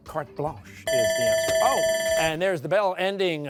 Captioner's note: bell ringing